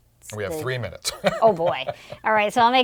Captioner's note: laugh